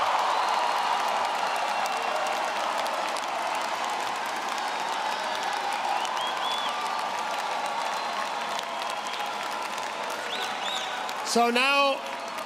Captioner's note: applause